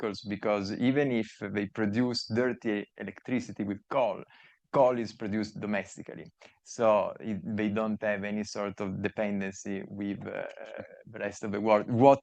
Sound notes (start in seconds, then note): none